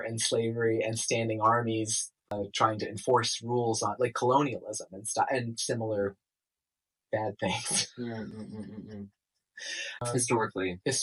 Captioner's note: laughter at calling violent domination "bad things"